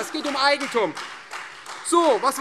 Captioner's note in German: Beifall Freie Demokraten